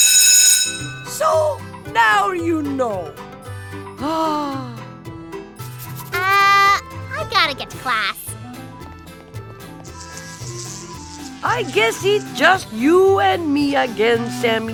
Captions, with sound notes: SO NOW YOU KNOW. (SIGHS) UH... I GOTTA GET TO CLASS. (FLIES BUZZING) I GUESS IT JUST YOU AND ME AGAIN, SAMMY.